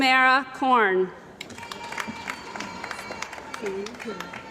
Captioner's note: cheering & Applause